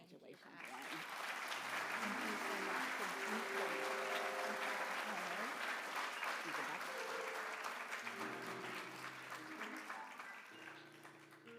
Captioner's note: applause